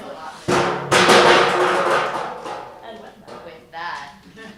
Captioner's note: banging